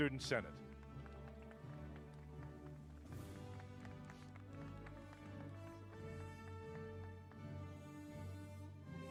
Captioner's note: applause